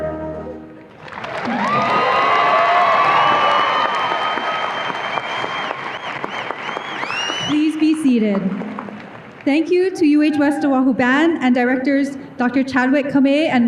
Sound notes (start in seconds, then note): 0.8 audience applause and cheers